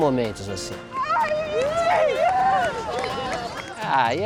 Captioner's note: applause